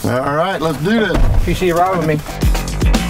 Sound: car door thuds; upbeat music

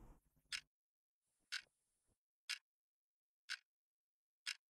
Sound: clock ticking

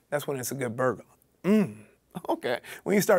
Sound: moans

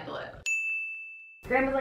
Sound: ding

